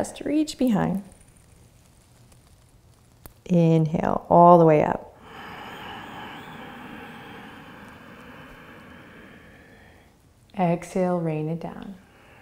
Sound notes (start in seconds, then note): 5.1 inhaling